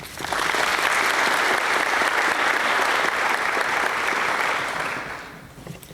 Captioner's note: applause